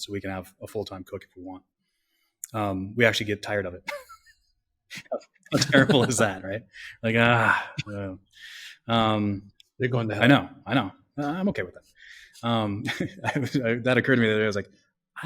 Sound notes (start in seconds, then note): 5.5 laughs